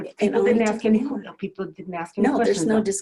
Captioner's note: overlapping chatter